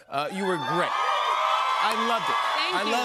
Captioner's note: cheers and applause